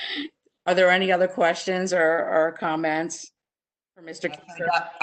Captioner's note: laughs